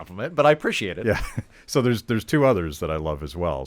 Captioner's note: chuckling